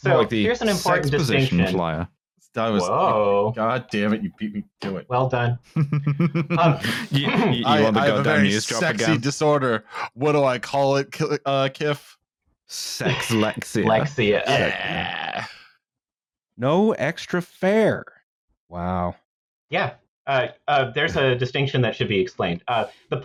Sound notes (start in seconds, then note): 5.7 chuckles